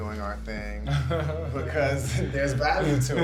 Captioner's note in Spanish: Odessa ríe